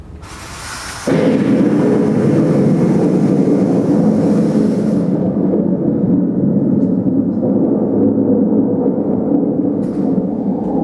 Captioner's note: thunder